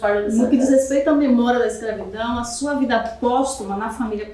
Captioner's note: speaking portuguese